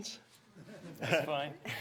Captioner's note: audience chuckles